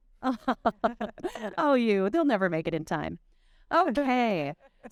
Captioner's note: chuckling